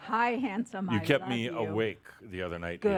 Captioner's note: a few chuckles